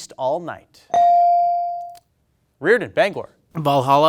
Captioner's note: bell dings